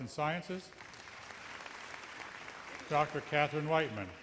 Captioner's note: audience applauds